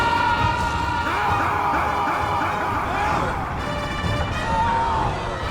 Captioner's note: Butters screams; Hutton screams; dark intense music